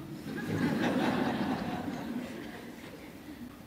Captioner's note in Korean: 청중웃음